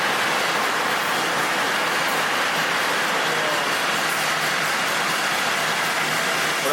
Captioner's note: applause